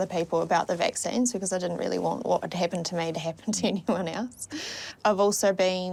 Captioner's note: chuckles